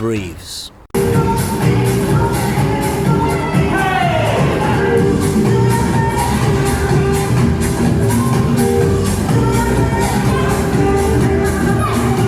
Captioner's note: clapping and cheering